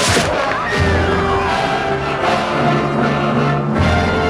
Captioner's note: woman screams